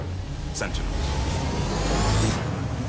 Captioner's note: powering up